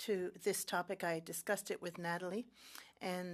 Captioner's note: speaking French